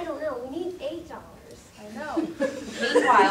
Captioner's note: audience laughter